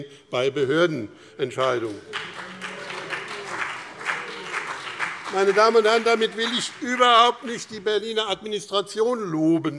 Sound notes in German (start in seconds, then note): 1.6 Beifall BÜNDNIS 90/DIE GRÜNEN und CDU - Zuruf Freie Demokraten: Oh!